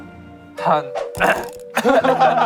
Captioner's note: ahem